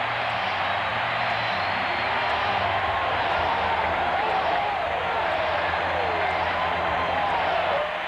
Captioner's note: cheering